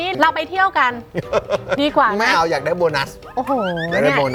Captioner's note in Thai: หัวเราะ